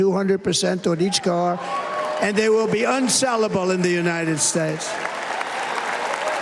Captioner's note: cheers and applause